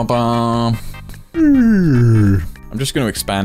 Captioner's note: Sassy yawning